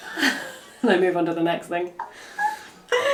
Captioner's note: laughs